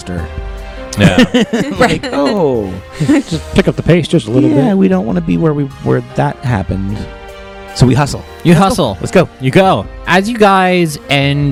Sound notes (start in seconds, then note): 4.1 laughing